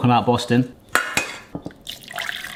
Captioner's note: bowl clanking; water pouring